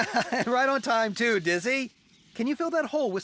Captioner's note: chuckles